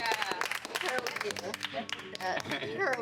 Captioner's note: all applauding